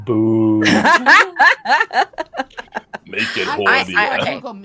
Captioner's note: all laughing